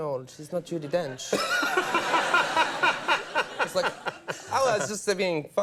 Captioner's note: audience laughs